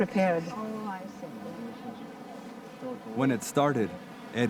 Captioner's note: speaking in foreign language